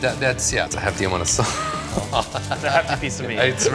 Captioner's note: laughing